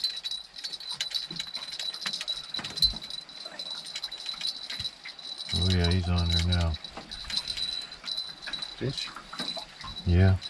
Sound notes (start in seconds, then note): 0.3 reel cranking; 3.0 jangling